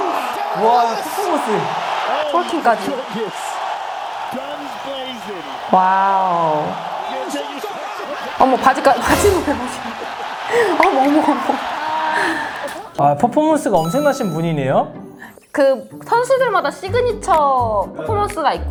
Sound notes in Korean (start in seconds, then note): 4.5 비명; 11.9 웃음